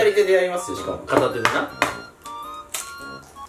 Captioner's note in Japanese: コンコン